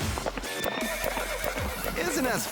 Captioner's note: horse neighing